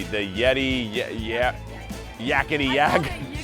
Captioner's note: stammers; laughs